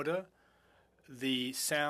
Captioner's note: speaking French